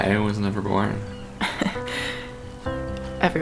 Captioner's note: Nadine laughs